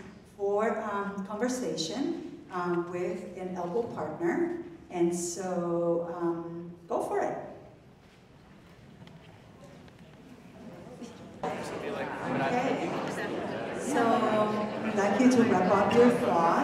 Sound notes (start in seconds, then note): 12.3 audience talking